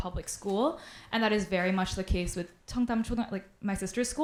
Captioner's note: speaks Korean